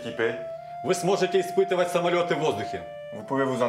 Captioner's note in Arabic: الصوت المنطوق بالروسية